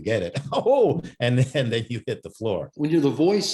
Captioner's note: laughing